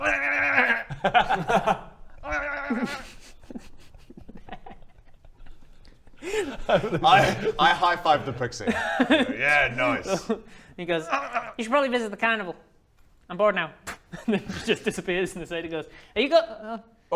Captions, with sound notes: LALALALALALAAAA! blalalalalala! Baa! I...I hi five the pixie I go yeah nice He goes you should probably visit the carnival I'm bored now *pfff* and then just disappears and the satyr goes are you go- oh